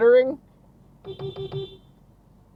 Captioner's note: beepbeep!